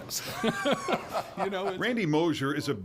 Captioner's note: laugh